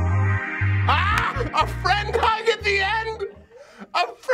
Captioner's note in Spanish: Carcajadas